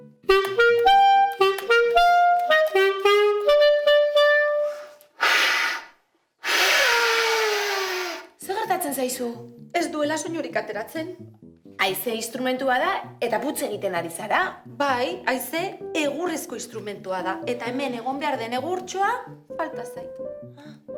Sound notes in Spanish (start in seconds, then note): 0.0 Música de clarinete; 5.1 sonido de aire